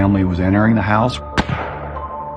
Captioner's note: gunshshotot